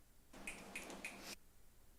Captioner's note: snapping fingers